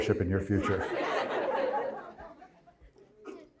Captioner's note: crowd laughs